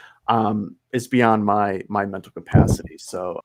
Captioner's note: chuckles